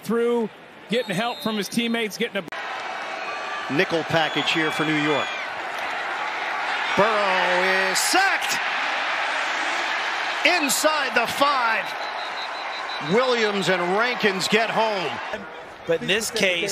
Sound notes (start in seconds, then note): 11.7 whistle blowing